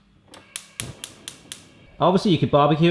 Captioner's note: clicking